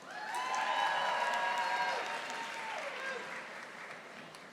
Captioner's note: audience applauding